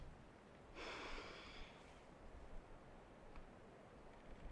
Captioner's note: Rachel sighs